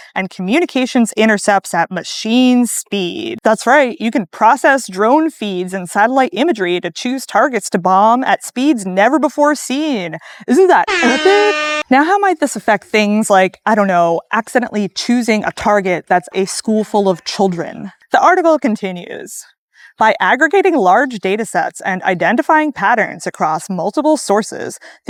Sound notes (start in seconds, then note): 10.4 sarcastically